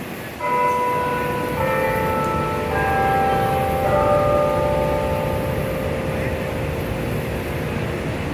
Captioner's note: church bells chime the quarter hour